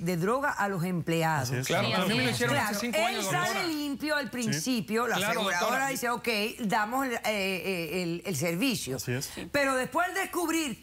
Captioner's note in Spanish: Hablan al unísono